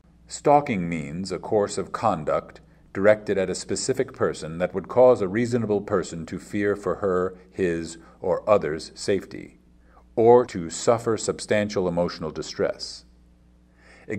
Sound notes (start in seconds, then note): none